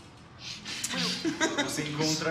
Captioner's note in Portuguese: Risadas